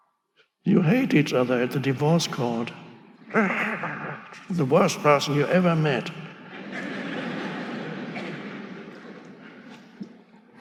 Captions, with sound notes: you hate each other at the divorce court. The worst person you ever met. (audience laughing)